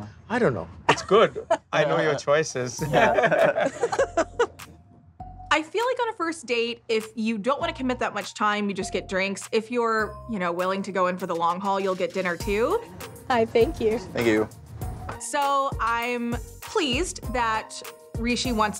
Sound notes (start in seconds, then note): 2.8 laughter